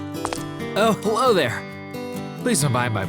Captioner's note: cough